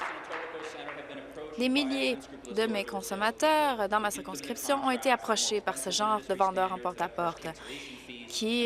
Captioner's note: applause